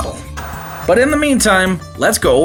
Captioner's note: TV Static